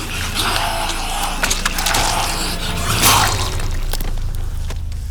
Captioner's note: gurgling